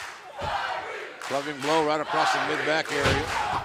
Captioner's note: fans chanting